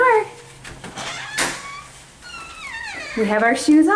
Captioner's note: door creaks